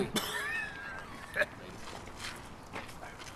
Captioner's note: more Coughing